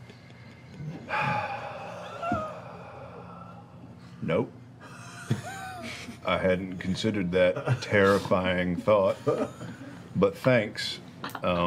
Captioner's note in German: seufzt